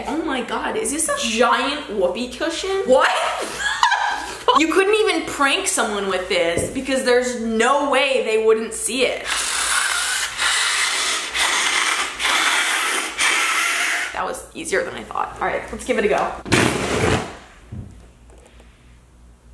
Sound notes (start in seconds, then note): 3.1 laughs; 9.3 blowing air